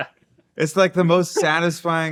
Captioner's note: laughing